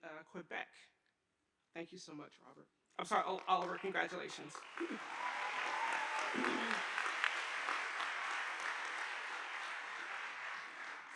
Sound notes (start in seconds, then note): 5.6 audience applauding